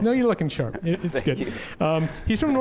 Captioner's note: laughs